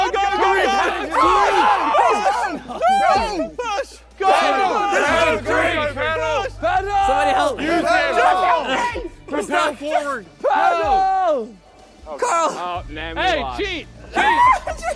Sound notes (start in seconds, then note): 10.6 contestants yelling